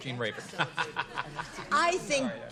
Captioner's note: laughs